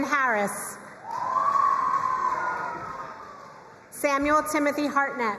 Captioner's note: crowd cheering and applauding